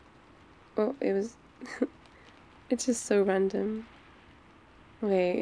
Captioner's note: laughs